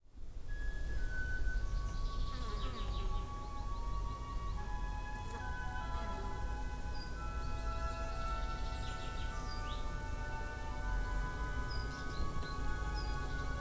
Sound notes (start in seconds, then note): 0.9 gentle music; 6.6 birds chirping; 10.0 gentle music continues